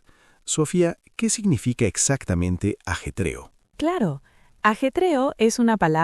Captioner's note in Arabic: صخب